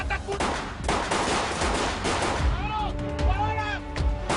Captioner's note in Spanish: Disparos